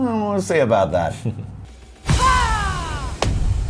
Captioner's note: vampire Noises